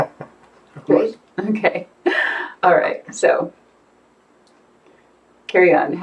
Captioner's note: chuckles; chuckling